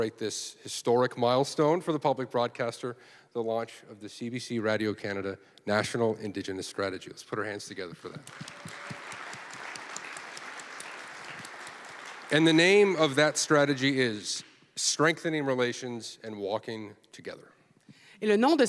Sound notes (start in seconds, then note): 10.2 applause; 18.4 speaking French